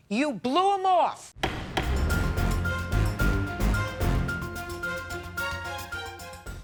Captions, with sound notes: you blew him off. (dramatic music) (gavel banging)